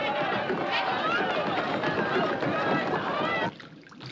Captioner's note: Grito